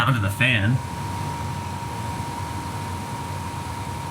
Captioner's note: fan whirring